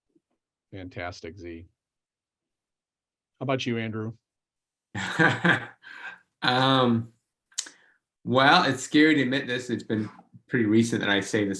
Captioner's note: laughs